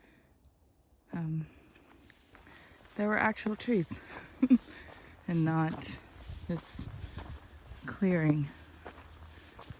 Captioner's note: chuckles